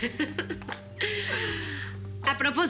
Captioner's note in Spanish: Risas